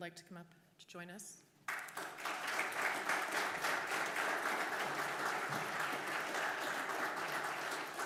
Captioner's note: applause